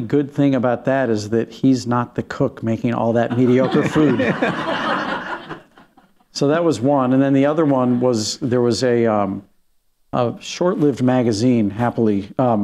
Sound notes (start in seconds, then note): 3.2 laughter